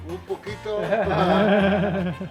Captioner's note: in foreign language; laughing; in foreign language